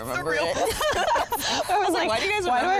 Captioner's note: all laugh